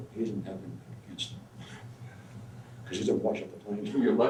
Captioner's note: laughs